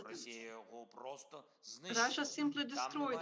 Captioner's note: Volodymyr speaking in foreign language